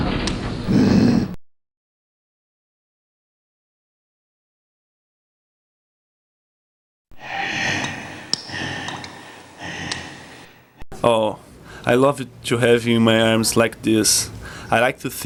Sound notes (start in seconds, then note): 0.7 Groden grunts; 7.1 Groden breathes heavily